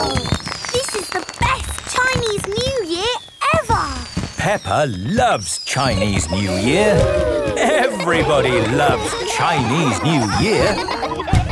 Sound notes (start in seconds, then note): 6.3 exclamations; 10.0 laughter